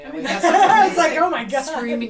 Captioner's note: laughter